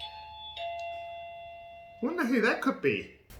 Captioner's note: door bell ringing